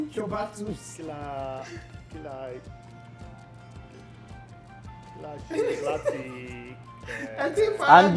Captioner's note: laughs